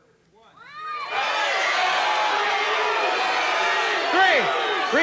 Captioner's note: crowd screaming numbers